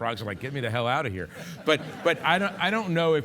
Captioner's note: audience laughing